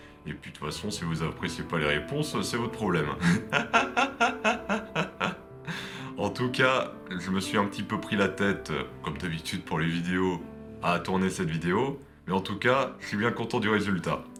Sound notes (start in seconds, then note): 3.2 laughs